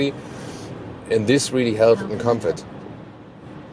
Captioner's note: voice assistant interrupts